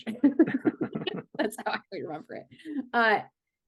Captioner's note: laughing